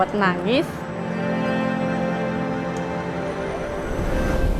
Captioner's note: soft music continues; traffic sounds